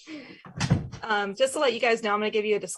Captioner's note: door bangs